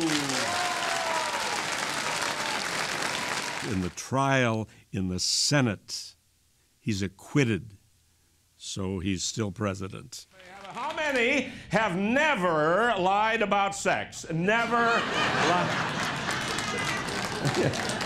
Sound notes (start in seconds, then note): 2.9 applause and cheering; 17.8 laughter